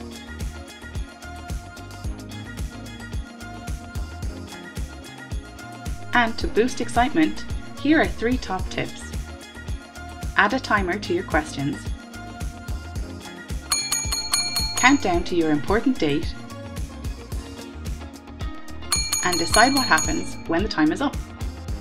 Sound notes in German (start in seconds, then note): 13.7 Klingeln; 18.8 Klingeln